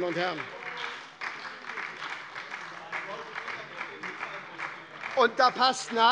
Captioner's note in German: Beifall bei der SPD - Zurufe von der CDU - Glockenzeichen des Präsidenten